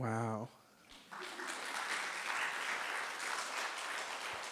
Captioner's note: crowd applauds